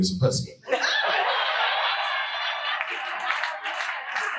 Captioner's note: audience laughing